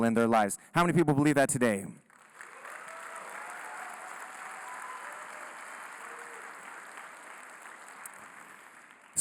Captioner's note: applause, Cheering